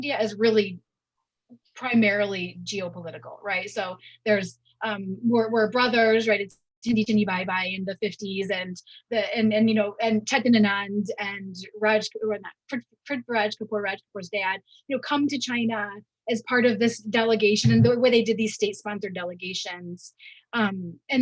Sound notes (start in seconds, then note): 6.8 speaking in Hindi; 10.3 speaks in Hindi